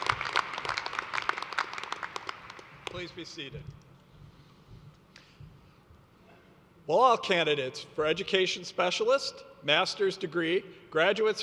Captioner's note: applause